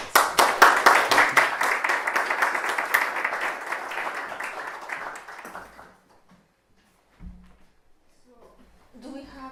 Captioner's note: applause